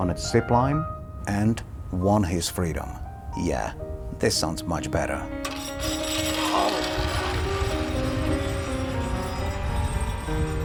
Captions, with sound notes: on a zip line and won his freedom. Yeah, this sounds much better. (zip line whirring)